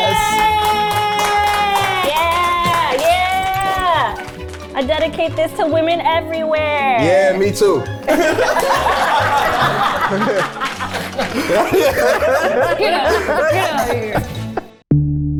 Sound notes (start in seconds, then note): 8.0 everyone laughs